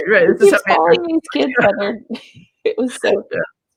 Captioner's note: laughs